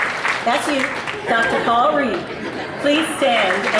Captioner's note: audience laughs